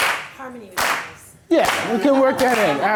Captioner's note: voiceover